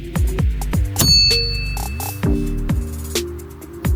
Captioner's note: satisfying DING!